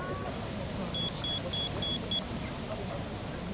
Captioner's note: beeping